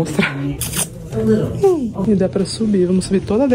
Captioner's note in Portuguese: beijo estalado